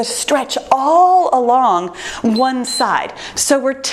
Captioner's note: timer beeps